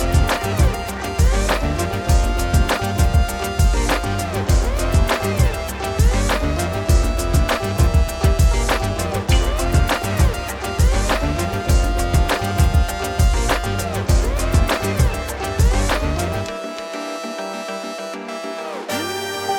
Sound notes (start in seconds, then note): 11.4 two minutes rotors rotate